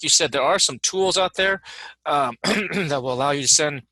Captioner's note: coughs loudly